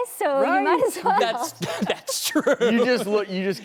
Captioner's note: laughs